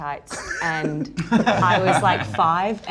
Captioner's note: laughs